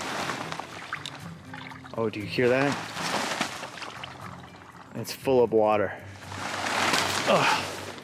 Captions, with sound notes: Oh, do you hear that? (water trickling) It's full of water.